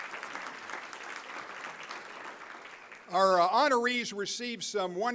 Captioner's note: applause